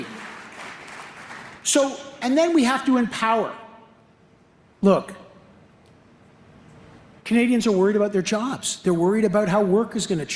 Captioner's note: applause